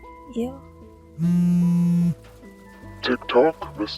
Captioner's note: phone vibrating continues